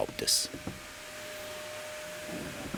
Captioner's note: machine noise